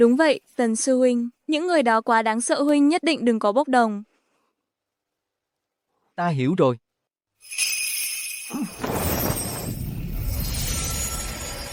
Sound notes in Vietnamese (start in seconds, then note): 7.4 chuông